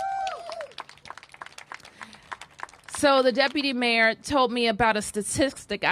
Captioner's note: cheers and applause